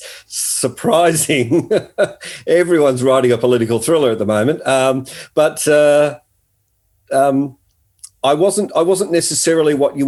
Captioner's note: laughing